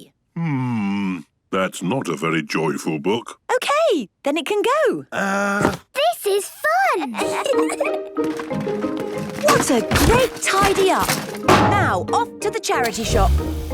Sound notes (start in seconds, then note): 7.1 kids giggling